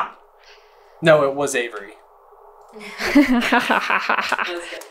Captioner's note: laughter